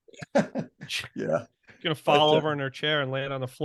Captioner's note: laughing